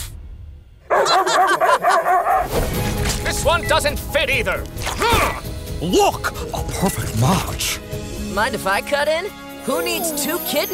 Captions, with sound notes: [laughing] [barking] This one doesn't fit either. [grunting] Look, a perfect match. Mind if I cut in? Who needs two kidneys